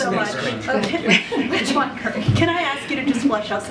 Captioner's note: laughs